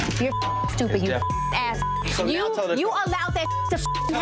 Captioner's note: beep